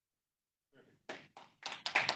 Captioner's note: audience applauds